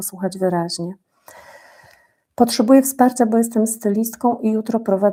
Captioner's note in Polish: westchnienie